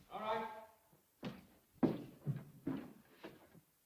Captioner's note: Joss's footsteps